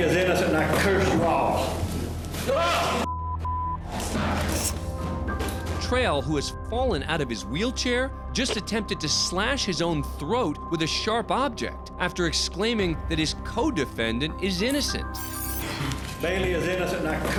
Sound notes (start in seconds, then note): 4.5 clattering